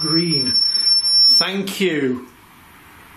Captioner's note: machine beeping